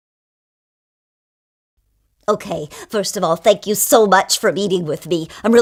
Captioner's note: female voice